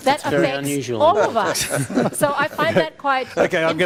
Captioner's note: others laugh